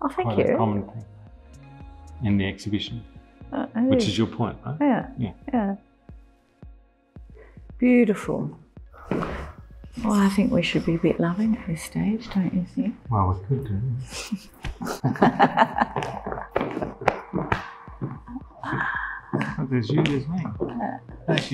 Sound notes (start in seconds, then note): 14.0 both laughing